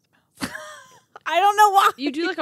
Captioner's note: laughing